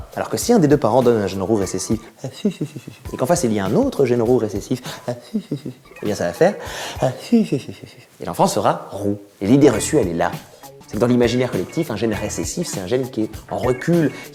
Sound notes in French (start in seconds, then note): 1.6 afufufufu; 7.2 afufufufu